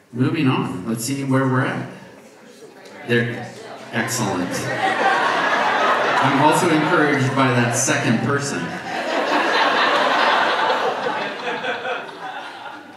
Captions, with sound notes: Moving on, let's see where we're at. There, excellent. (audience laughs) I'm also encouraged by that second person. (audience laughs)